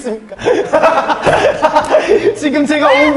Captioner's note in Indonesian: tertawa geli